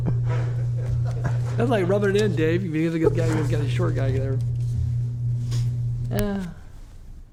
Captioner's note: laughter